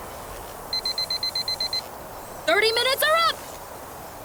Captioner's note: timer goes off